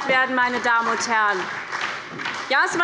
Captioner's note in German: Beifall bei der SPD